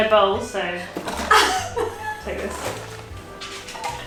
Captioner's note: laughing